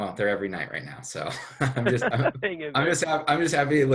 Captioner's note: laughs